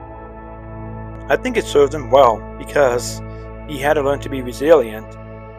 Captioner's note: voiceover